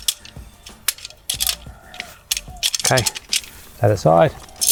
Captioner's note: poles clinging